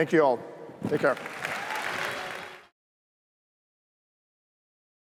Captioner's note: applause